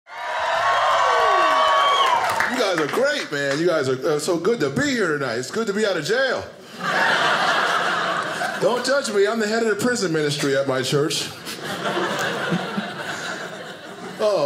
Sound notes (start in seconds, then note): 0.0 audience cheers; 6.6 audience laughing; 11.4 audience laughing